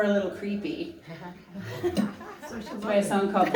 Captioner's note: light laughter and chatter